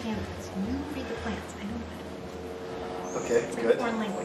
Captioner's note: whispers